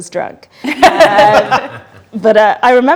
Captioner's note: group laughs